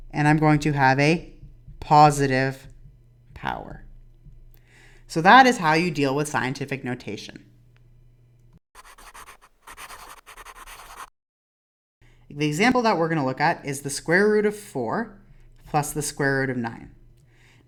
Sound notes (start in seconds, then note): 8.7 scribbling noise